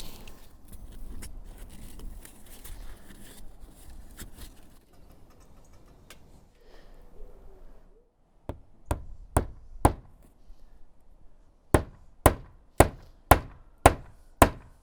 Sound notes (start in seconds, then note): 8.6 hammer knocking